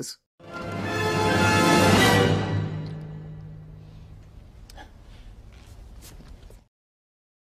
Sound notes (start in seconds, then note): 0.4 exciting music; 4.6 exhales